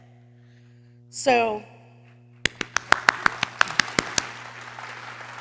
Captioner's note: people cheering